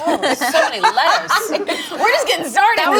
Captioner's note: lady in brown sweater laughs